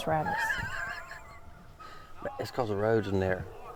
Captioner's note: laughs